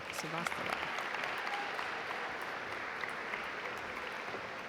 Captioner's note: audience applaud